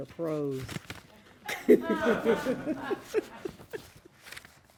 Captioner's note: laughing